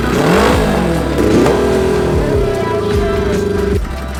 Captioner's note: engine revs; engine continues revving